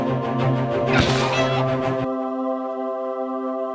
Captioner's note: bird squawks; suspenseful music